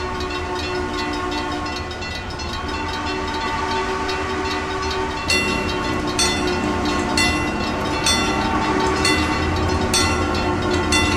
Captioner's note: CNJ Blue Comet Pacific whistle, wig wag ringing